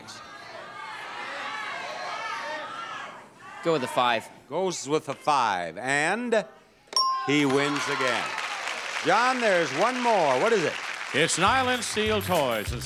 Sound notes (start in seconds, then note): 6.9 sound effect dings; 7.2 audience cheering